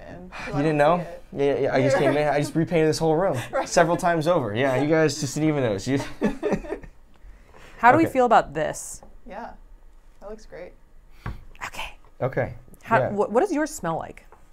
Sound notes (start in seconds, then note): 6.0 laughs